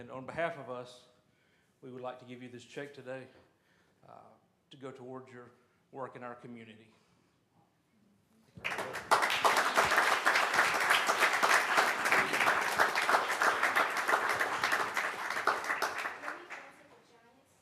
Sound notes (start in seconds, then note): 8.6 applause